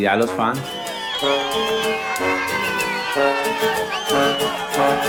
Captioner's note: crowd cheering